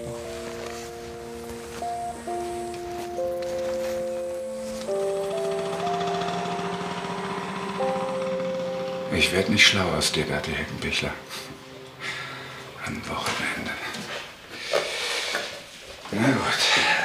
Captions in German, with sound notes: (Motorroller knattert.) Ich werde nicht schlau aus dir, Bertie Heckenbichler. Am Wochenende. Na gut.